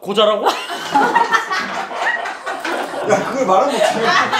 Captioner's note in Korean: 웃음